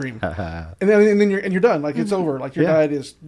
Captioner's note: chuckles